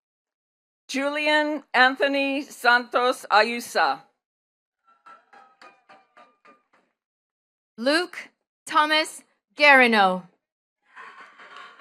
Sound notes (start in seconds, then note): 5.0 attendees clapping; 11.5 attendees cheering and clapping